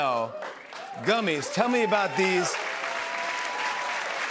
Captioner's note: cheers and applause